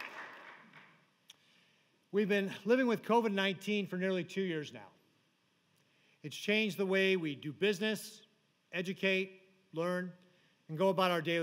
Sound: applause

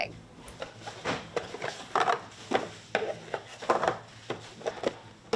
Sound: boxes shuffling

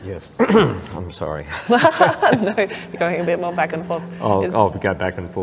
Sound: laughs

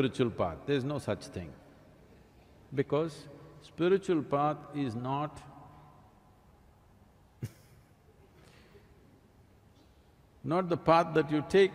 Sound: laughs

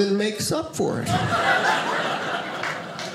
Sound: audience laughing

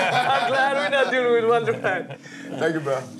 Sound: laughs

